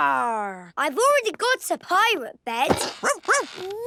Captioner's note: barking